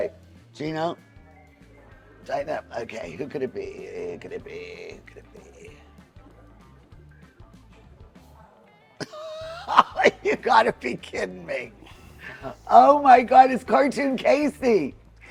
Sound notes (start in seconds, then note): 6.4 upbeat jazz music; 9.0 laughs